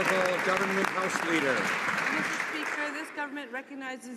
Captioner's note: some Applause